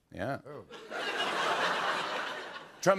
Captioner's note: laughter